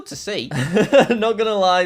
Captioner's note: chuckles